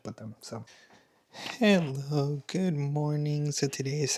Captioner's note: snorts